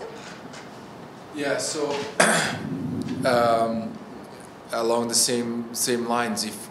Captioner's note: clears throat